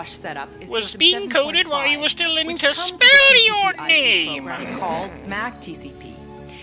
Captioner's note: snort of laughter